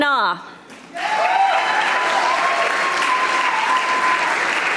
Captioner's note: audience applauding